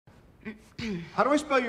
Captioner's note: clears throat